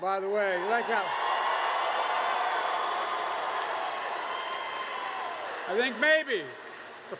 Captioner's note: applause